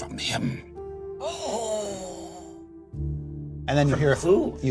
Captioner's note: gasp